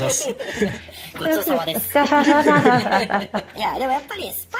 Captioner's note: laughs